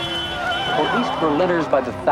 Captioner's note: car horn beeps